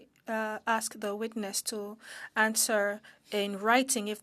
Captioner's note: speaking French